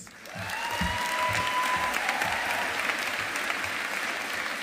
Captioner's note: audience applauding